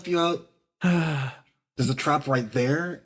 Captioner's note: Matatak Sighs